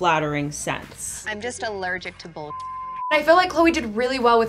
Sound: beep

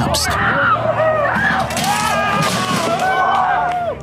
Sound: people screaming

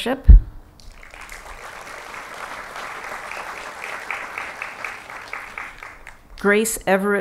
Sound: applause

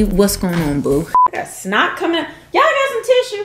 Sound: beep

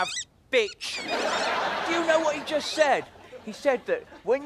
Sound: squeaking

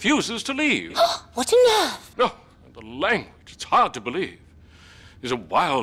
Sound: gasps

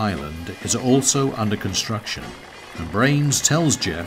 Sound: machinery rumbling

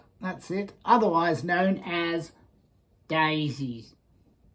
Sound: funny voice

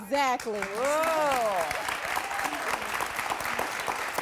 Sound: audience claps

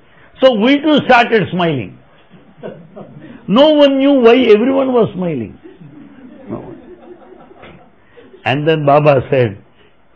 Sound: laughter

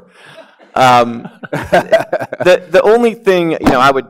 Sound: laughs

